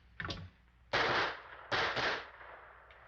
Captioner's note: gunshots